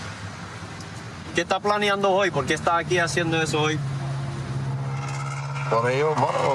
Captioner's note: speaking spanish